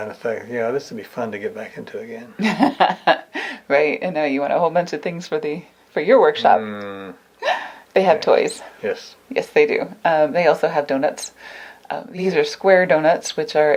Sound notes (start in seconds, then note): 2.4 laughs; 6.4 grunts